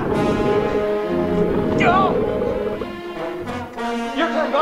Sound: grunting

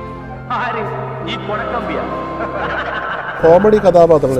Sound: mocking laughs

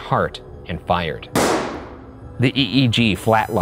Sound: gun bangs

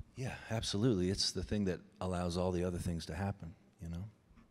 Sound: none

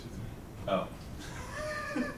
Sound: laughter

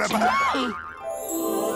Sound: screams

